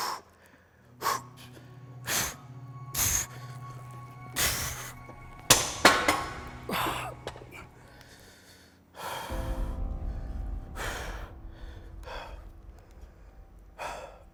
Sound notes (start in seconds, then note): 3.8 breathing deeply; 5.2 object fell; 6.7 grunting; 10.4 breathing deeply